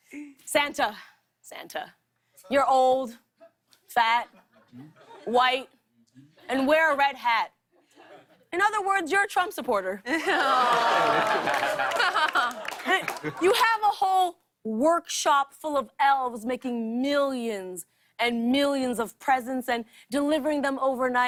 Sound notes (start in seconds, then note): 10.1 laughter